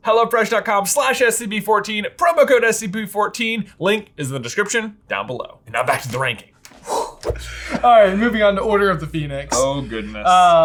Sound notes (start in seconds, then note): 6.8 exhales deeply